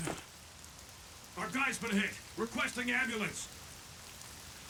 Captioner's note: over comms